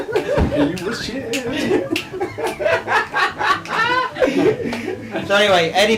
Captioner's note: laughs